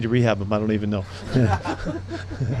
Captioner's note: laughs; people laughing